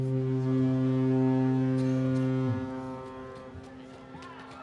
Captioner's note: horn sounds